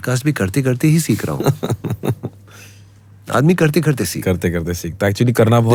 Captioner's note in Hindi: हंसी